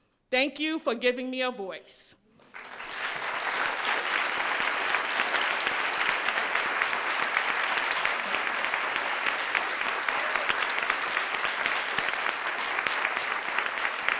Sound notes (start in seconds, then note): 2.6 crowd applauds